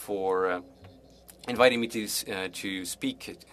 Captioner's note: speaking French